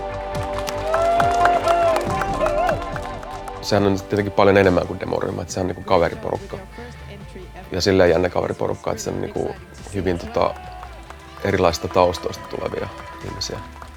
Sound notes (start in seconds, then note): 0.8 crowd cheers